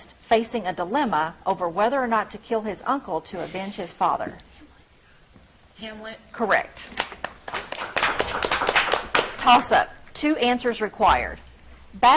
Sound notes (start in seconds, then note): 6.9 audience clapping